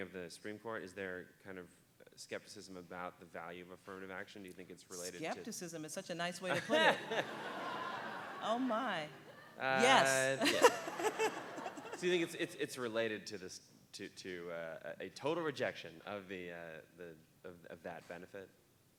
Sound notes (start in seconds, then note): 6.5 audience laughing